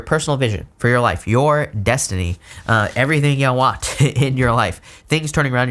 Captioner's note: laughs